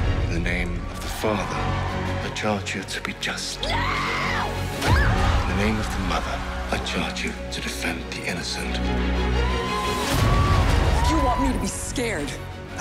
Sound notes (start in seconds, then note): 3.6 scream; 10.2 explosion